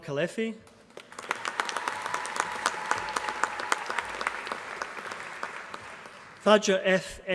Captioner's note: applause